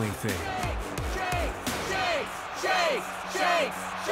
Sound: crowd

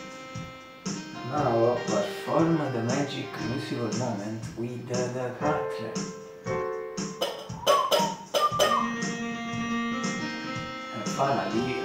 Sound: whistle

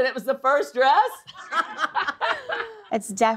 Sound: laughter

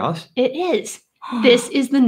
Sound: gasps

